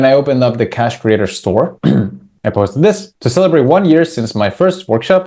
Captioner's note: clears throat